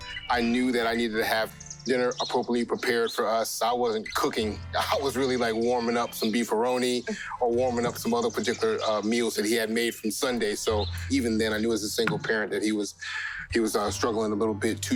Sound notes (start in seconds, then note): none